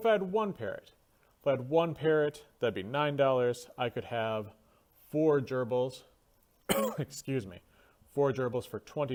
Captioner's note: cough